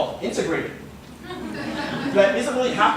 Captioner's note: laughter